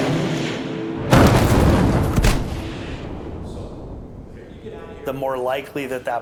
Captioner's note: explosions blast